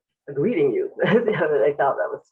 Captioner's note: chuckles